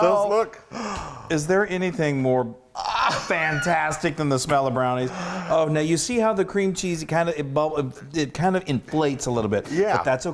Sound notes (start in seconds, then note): 0.0 applauding; 5.0 gasping